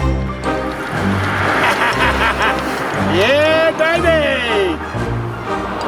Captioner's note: laughing